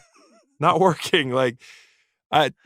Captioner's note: laughs